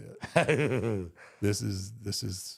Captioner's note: Michael Hayes laughs